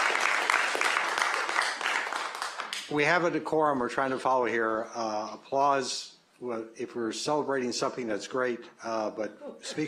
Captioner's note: applause